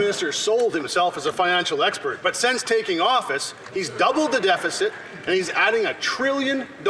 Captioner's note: some Applause